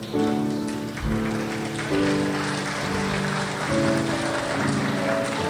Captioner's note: crowd applauds